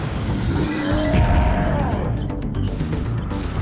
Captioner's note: roaring